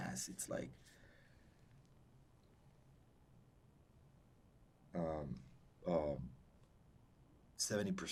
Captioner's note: pauses 6 seconds